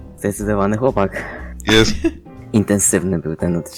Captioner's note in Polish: śmiech